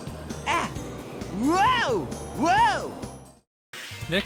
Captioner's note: Sonic yelling and shouting